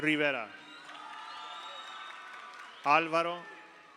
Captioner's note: audience cheers; audience applauds